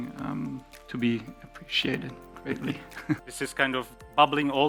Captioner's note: laughs